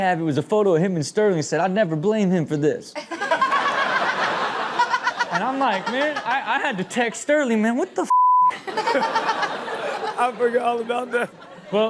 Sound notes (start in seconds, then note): 3.0 everyone laughs; 8.1 beep